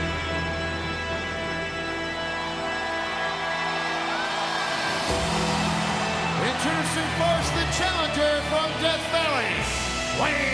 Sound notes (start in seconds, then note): 4.4 audience cheering